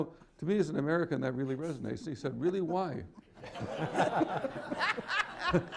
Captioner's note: laughter